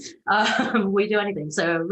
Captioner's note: giggles